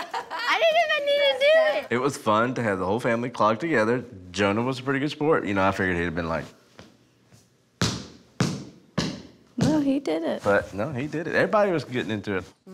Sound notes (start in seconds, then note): 7.8 clogging